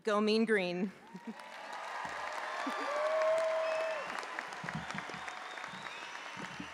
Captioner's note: audience applauding; audience cheering